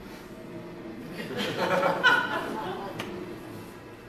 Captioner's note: laughter